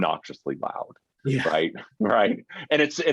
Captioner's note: chuckles